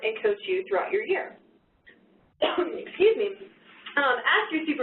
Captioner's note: coughs